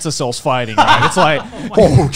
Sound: men laughing

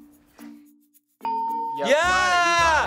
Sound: ding

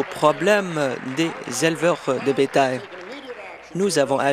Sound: applause

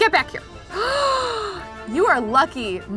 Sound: gasps

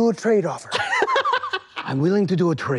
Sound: Sam chortles at the bartering system

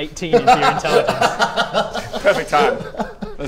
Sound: crazy laugh

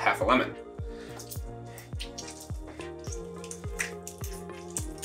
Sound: squishing

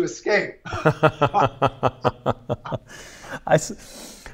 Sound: laughing

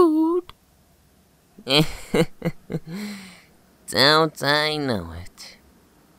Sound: nervous chuckle

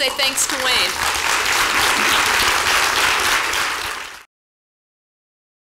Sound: applause

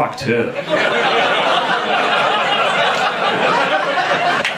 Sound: audience laughing

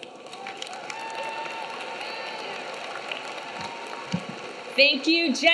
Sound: audience cheering; audience clapping

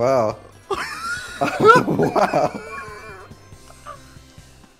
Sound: laughter

